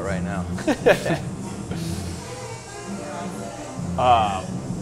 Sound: both laugh

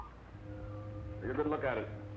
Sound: whistle

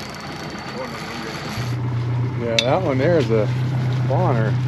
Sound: reel cranking; boat engine idling

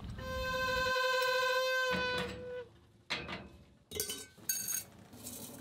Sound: tea kettle trumpeting; tea leaves rustling

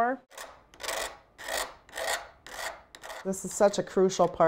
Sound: soft scraping

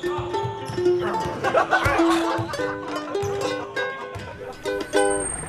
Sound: teens laugh

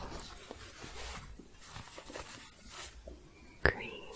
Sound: scratching

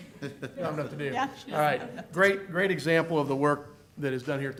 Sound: laughter

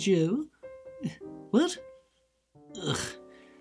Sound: grunts

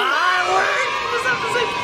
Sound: children cheer

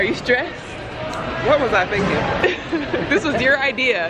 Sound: laughter

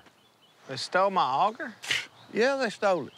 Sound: snorts

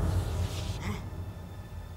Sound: gasps

